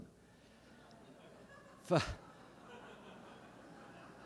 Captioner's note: laughter